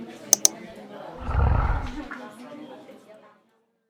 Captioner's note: grumbles